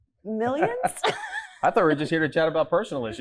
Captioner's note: laughs